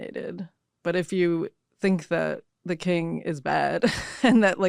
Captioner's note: chuckles